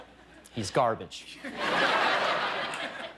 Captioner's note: laughter